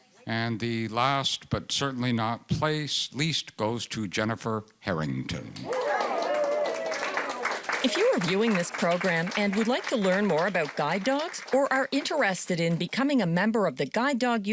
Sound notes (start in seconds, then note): 5.6 cheering